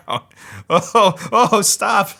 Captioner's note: laughing